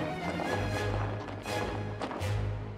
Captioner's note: troops marching